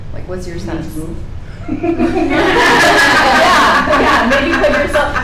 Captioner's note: participants laughing